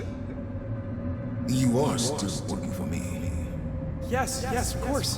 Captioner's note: as an echo from the past; as an echo from the past